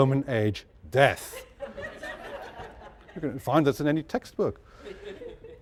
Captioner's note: laugh